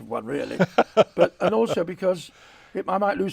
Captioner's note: laughs